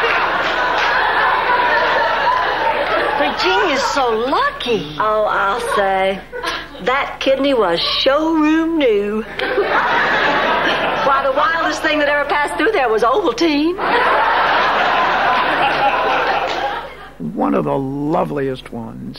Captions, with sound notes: (audience laughing) Virginia's so lucky. Oh, I'll say. That kidney was showroom new. Why the wildest thing that ever passed through there was Ovaltine. (audience laughing) One of the loveliest ones.